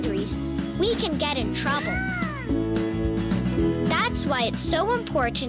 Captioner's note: squeaking